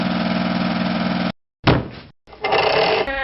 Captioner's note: thud; ratcheting